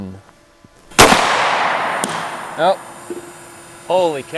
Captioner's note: loud bang